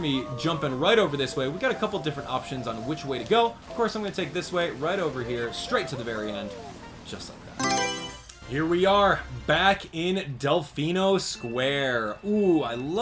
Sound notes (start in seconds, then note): 7.6 Mario Selection Sound